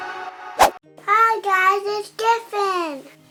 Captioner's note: air whooshing